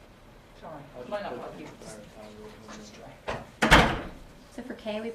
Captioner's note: speaking away from mic